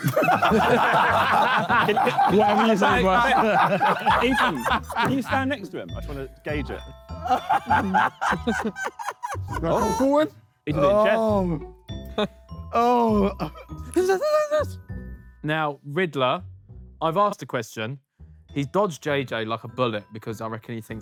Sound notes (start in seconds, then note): 0.0 laughs; 0.0 Sidemen laugh; 7.2 JJ laughs